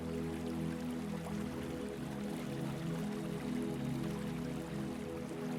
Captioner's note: water trickling